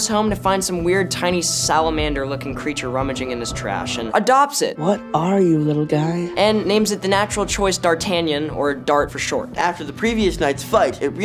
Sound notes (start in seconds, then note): none